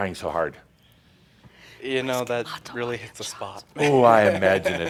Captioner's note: he chuckles